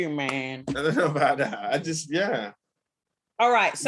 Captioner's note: laughing